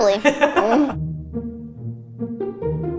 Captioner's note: gentle music; laughter